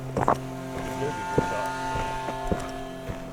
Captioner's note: group chattering indistinctly; unsettling music